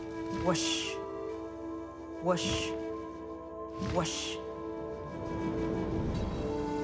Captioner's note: wings flapping slowly